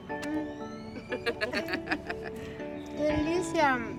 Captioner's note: laughter; speaking Spanish